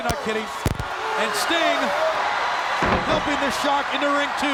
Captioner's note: body slamming